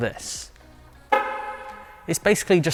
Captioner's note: car Horn